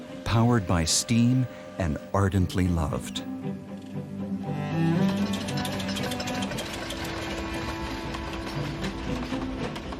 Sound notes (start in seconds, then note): 3.4 soft music; 4.4 train engine revving